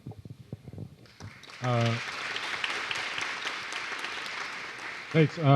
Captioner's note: applause